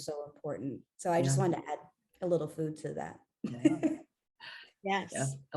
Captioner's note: laughs